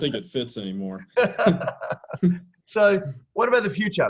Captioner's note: both laughing